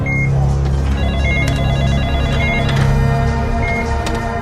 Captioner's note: phone ringing